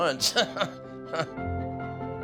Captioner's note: chuckles